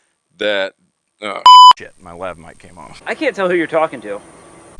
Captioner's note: beep